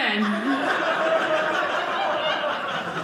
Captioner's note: audience laughing